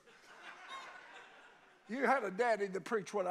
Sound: congregation laughs

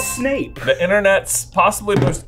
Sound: bell dinging

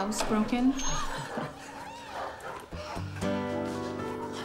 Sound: chuckles

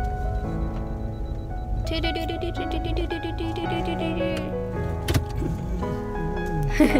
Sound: copying car noise's

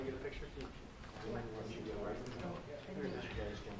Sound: chatter

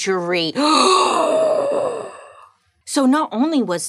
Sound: gasping

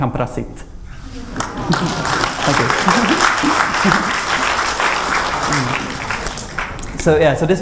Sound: applause

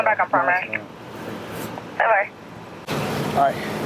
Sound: radio chatter

